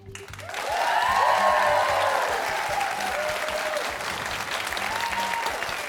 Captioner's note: cheers and applause